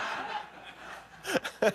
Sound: laughter

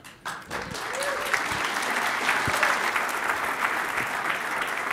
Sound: applause

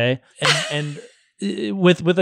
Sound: laughs

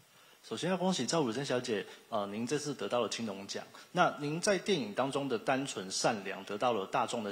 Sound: speaking in Taiwanese

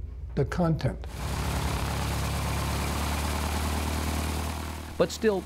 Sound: plane taxiing

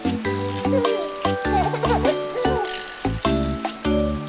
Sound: chuckling

